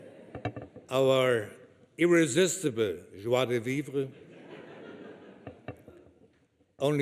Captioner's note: laughter